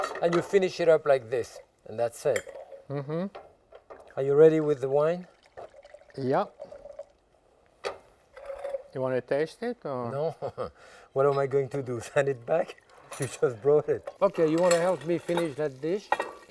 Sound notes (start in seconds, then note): 3.9 wine sloshing; 10.5 laughs